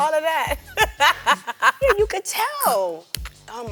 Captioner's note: laughs